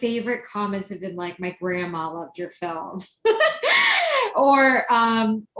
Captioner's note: laughs